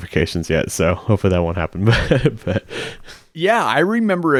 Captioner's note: laughing